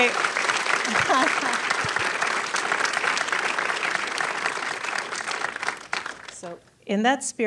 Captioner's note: applause